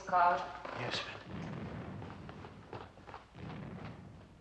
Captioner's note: distant Explosions